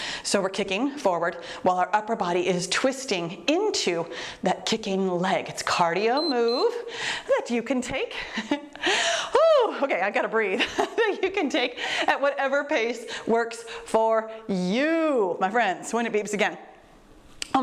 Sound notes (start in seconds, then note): 6.1 timer beeps; 10.5 laughs